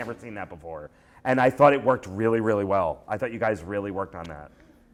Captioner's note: none